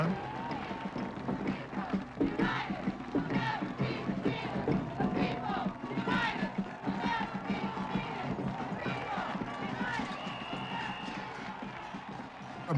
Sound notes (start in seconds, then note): 0.2 drums beating; 3.1 chanting